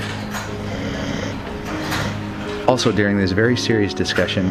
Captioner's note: snoring